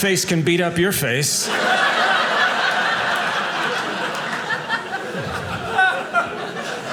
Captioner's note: audience laughing